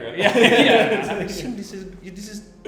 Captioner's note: they laugh